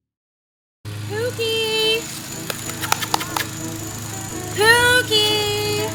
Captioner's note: lawnmower rumbling